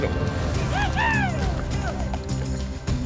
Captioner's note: cowboy yells